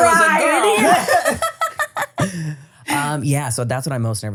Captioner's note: everybody laughing